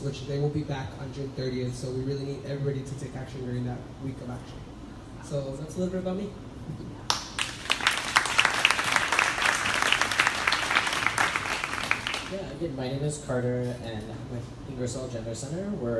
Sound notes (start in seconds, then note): 7.1 crowd applauding